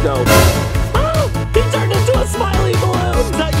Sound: shrieks

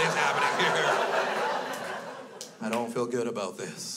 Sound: crowd laughs

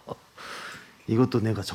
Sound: inhaling

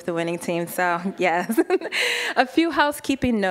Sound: laughing

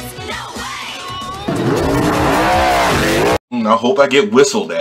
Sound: engine revving

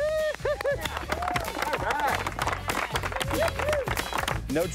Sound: flip crew applauding

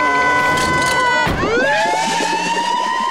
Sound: screaming; siren wailing

